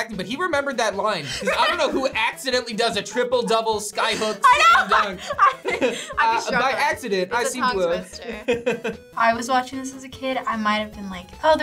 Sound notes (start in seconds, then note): 4.1 laughs